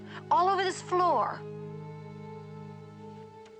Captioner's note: none